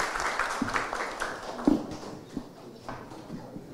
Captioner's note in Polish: oklaski